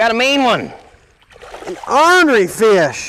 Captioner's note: splash